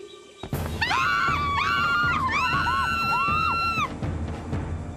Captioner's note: owl Hooting; Katie and Sadie Shrieking